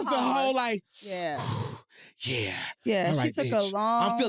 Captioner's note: inhales sharply